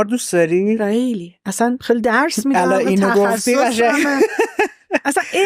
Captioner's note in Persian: خنده